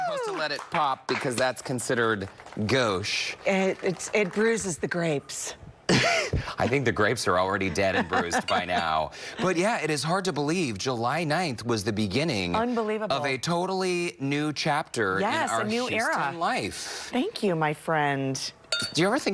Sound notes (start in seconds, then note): 4.2 applause